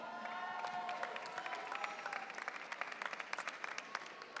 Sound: audience cheering

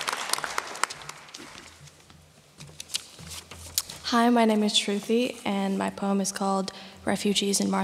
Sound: applause

